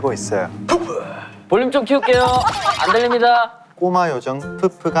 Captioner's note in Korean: 웃음 터짐